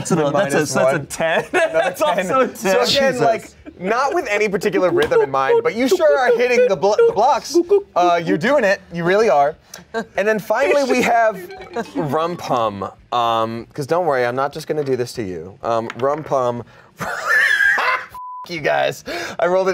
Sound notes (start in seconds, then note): 17.0 laughs; 18.2 beep